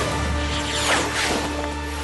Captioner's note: whoosh